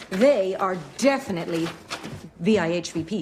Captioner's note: none